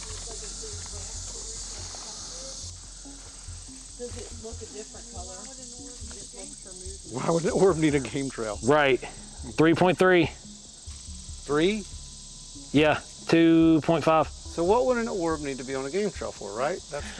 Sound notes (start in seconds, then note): 0.3 suspenseful music; 6.5 faintly speaking